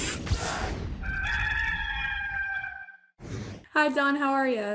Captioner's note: rooster crowing